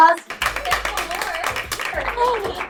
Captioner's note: applause